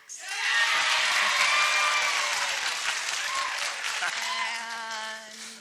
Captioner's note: cheering